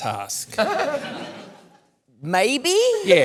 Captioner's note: laughter